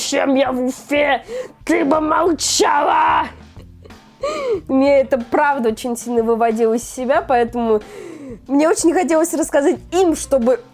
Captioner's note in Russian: смех